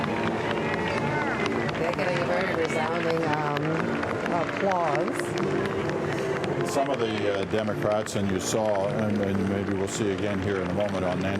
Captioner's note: applause